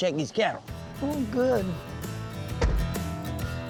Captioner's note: car door closes